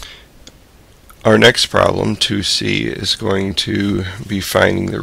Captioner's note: voiceover